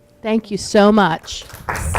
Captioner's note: audience applauds